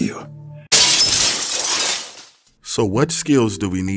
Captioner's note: glass shattering